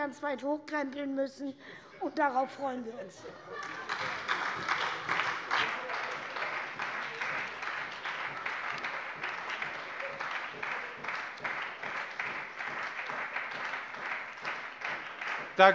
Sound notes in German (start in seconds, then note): 3.1 Heiterkeit und Beifall bei der SPD